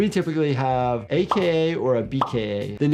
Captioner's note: graphics popping